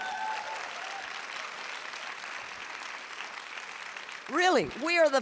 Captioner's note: audience applauding and cheering